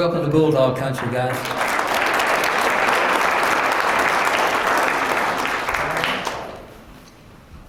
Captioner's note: applause